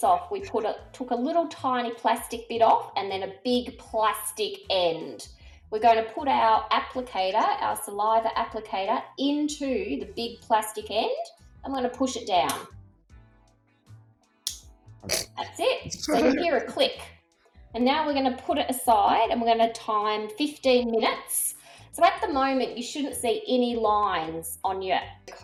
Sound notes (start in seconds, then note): 13.7 chuckles; 14.4 click!